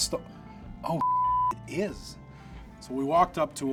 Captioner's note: beep